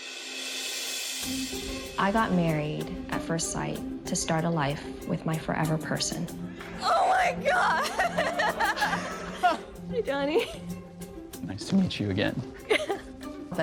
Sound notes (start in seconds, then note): 0.2 light music; 7.4 both laughing